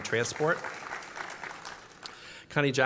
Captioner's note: applause